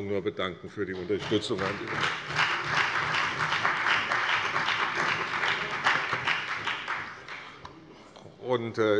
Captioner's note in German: Beifall bei der CDU, der SPD, dem BÜNDNIS 90/DIE GRÜNEN und der FDP